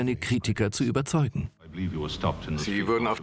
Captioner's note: voiceover